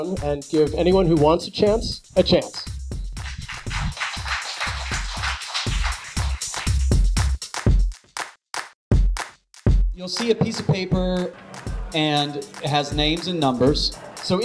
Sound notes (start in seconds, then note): 3.2 applause; 6.9 upbeat music